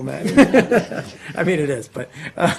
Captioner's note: laughing